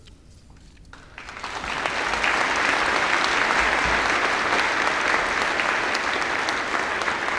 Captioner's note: applause